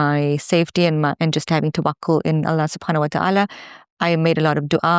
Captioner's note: speaks in foreign language